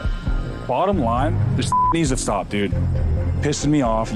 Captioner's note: beeps